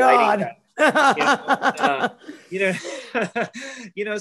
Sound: laughs

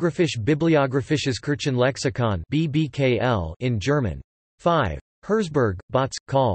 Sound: in German

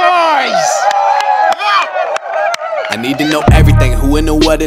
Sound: sound of cheering

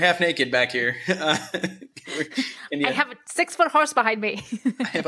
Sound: laughter

